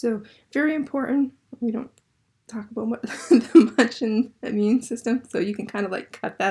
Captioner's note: Dr. Schreiner chuckles